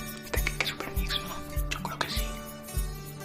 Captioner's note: murmuring